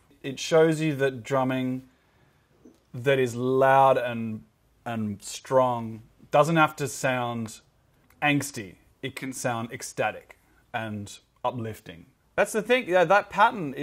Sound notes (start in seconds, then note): none